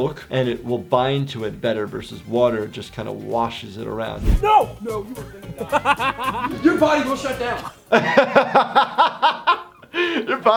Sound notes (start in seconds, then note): 5.2 group laughing; 7.9 laughing